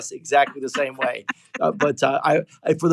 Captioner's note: laugh